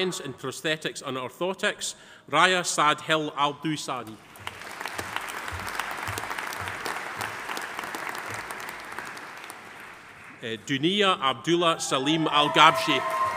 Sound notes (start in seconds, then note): 4.2 audience applauding